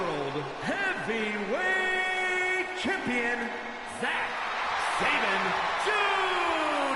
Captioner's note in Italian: Applauso